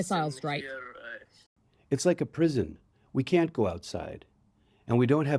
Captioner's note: through translator